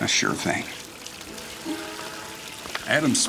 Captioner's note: water rushing